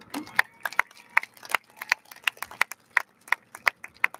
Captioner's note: audience lauds